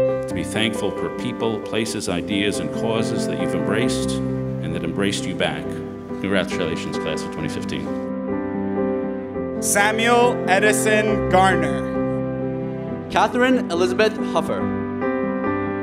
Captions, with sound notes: - To be thankful for people, places, ideas and causes that you've embraced and that embraced you back. Congratulations Class of 2015. - [Voiceover] Samuel Edison Garmin. Katherine Elizabeth Huffer.